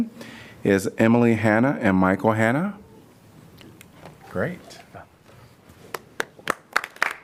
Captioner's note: applause